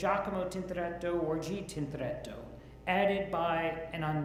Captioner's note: speaks Italian language